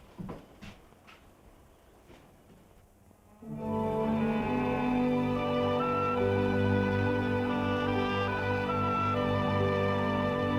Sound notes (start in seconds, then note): 3.4 peaceful orchestral music; 4.4 cows mooing